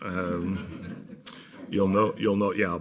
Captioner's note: laughter